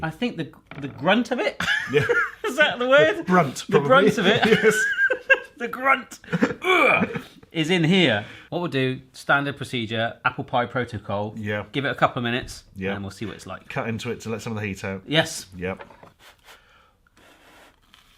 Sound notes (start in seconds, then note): 1.6 laughs; 3.0 laughing; 6.6 grunting; 16.2 heavy blowing